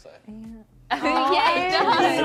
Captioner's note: laughter